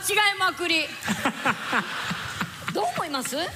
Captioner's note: laughter